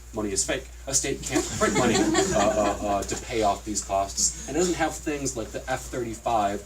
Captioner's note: laughter